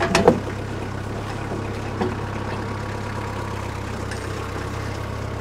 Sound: telehandler engine rumbling

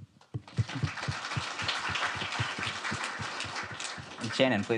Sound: audience applauds

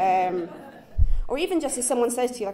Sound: chuckles

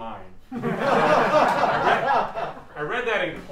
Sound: laughter

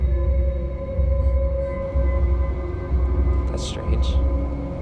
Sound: buzzing

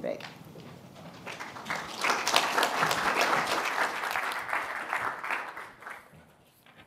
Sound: applause

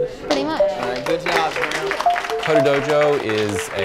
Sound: clapping; more clapping

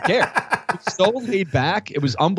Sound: laughter

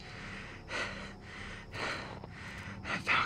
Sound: panting

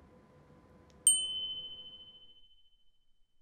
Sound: chiming

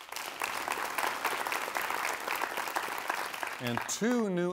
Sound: applause

